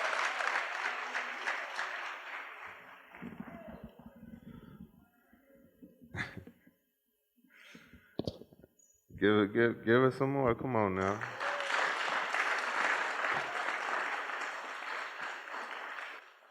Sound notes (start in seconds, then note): 5.9 laughs; 11.0 applause